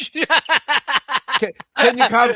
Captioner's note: laughter